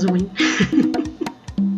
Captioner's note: laughs at big battle girls's fan